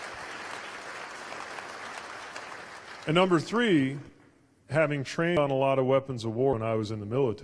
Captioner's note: applause